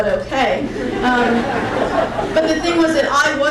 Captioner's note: crowd laughing